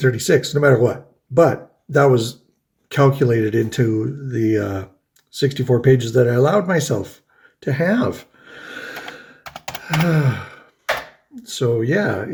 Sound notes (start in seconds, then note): 9.7 sighs